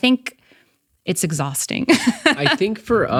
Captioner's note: laughs